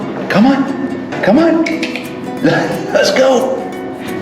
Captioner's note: clicks tongue